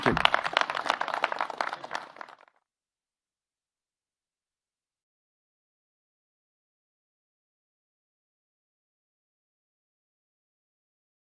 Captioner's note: applause